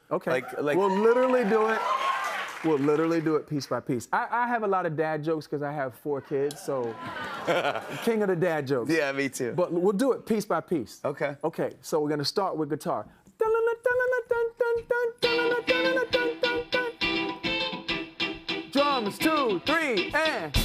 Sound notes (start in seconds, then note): 6.8 laughter; 15.2 guitar playing